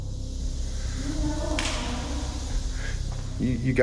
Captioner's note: strange voice